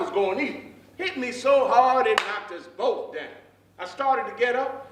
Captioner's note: slaps hands